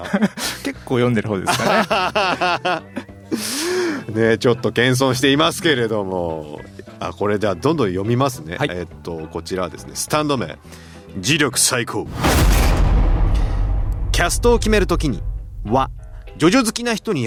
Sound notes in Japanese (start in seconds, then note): 1.5 笑い; 3.2 息をのむ音